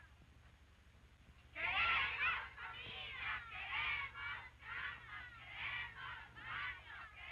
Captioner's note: women chanting slogans in Spanish